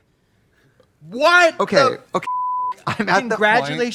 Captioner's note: beep